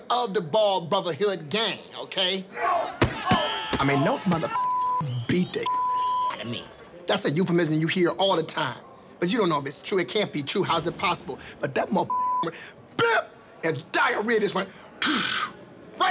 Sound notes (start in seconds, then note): 3.1 feet kicking body; 5.6 beep; 12.1 beep; 15.1 blowing air